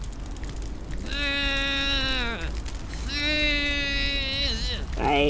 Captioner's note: apathetic blowing